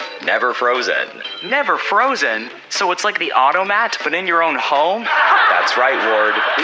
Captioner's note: laugh track